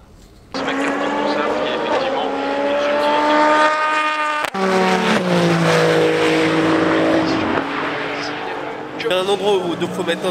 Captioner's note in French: Son de moteurs